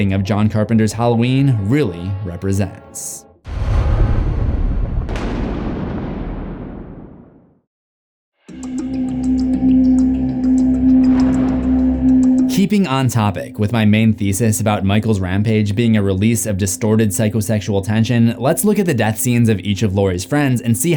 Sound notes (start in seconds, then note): 3.4 thunder rumbling; 3.6 ominous music